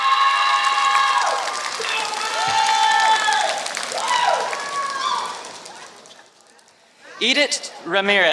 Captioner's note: applause